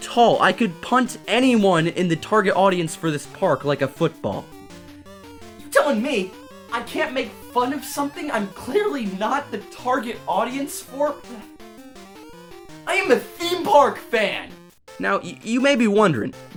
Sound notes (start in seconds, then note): 10.6 sputters